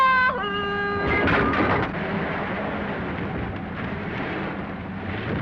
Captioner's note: engine rumbling